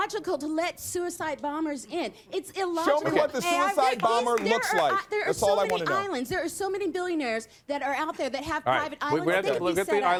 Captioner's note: applause